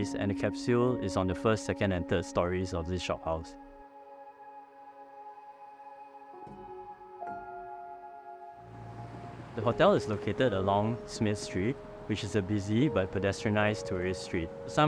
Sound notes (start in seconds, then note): 3.7 gentle music; 8.6 car engine revving